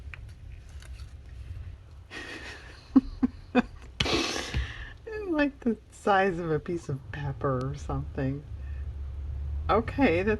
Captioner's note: laughs